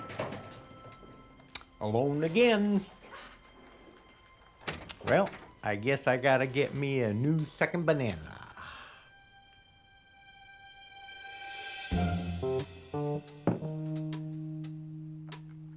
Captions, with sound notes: (door clicks open) (gentle music continues) - Alone again. (door clicks shut) (gentle music continues) Well, I guess I got to get me a new second banana. (gentle music fades) (upbeat groovy music)